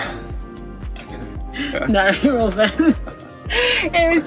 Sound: both laugh

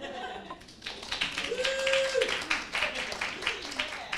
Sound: audience applauds

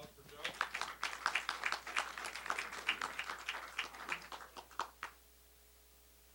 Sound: applause

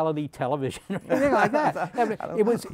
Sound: laughter

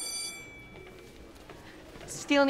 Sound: school bell rings; students chattering

